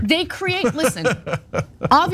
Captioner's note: laugh